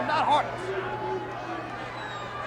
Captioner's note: applause